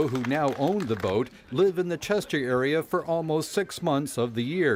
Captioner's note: cheering and applause